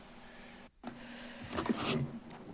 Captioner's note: rustles